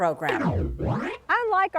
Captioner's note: woosh!